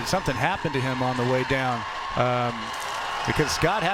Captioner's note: applause